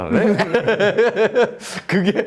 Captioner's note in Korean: 웃음